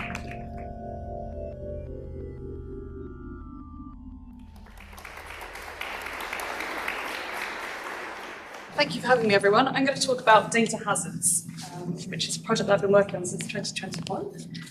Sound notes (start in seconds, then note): 4.4 applause